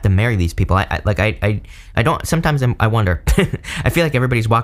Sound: chuckles

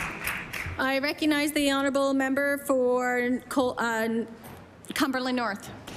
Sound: applause

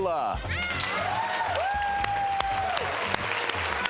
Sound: crowd cheering

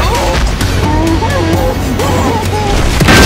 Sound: Tarn is crying of pain

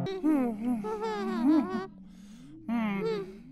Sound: ghosts moaning

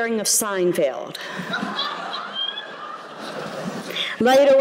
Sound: laughter

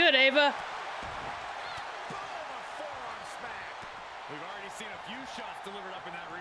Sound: applause

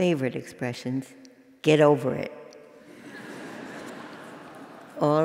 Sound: laugh

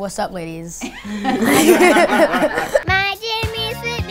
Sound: everyone laughs

